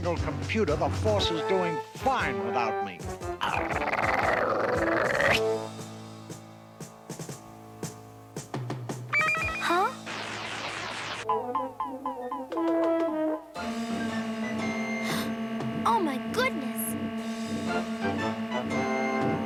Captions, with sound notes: THE FORCE IS DOING FINE WITHOUT ME. - [GRR] [WATCH BEEPS] [BEEPING] - OH, MY GOODNESS!